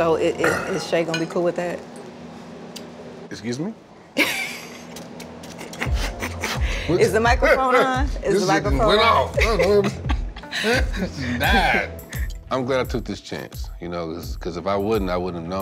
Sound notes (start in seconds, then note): 8.0 laughs; 9.3 both laugh